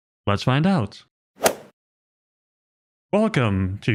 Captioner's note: golf ball hit sound effect